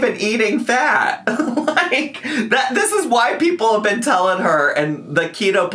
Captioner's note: laughs